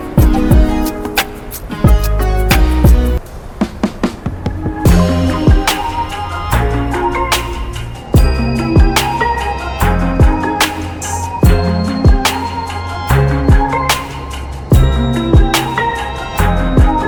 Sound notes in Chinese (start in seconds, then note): 5.4 語氣放鬆